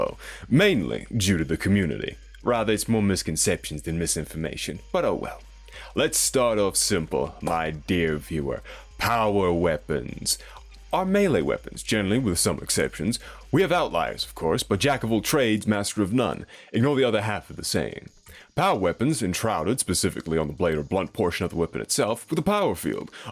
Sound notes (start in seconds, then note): 7.4 clap